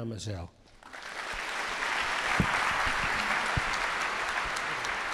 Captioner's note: audience applauding